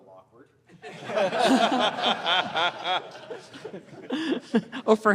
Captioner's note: laughter